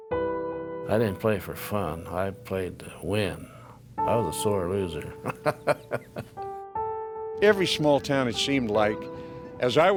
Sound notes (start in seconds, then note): 5.2 laughs